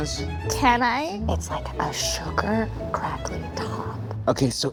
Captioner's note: whispers